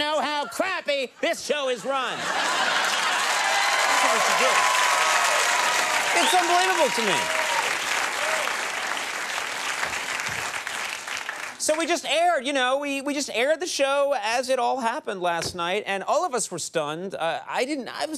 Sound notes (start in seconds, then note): 5.2 audience cheers